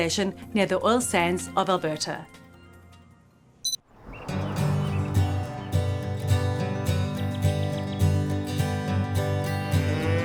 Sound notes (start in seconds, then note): 3.6 remote beeps; 4.2 upbeat acoustic music